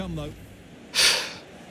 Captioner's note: sighs